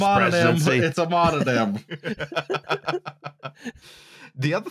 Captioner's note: laughter